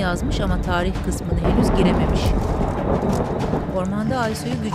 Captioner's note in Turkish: Gök gürültüsü sesi